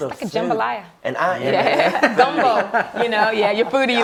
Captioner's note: laughs